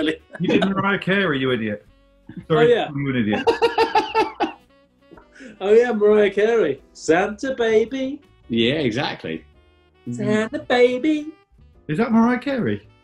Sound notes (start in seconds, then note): 2.3 laughing